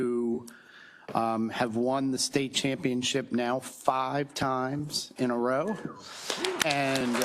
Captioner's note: applause